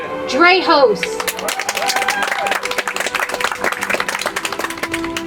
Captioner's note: audience applauds; soft music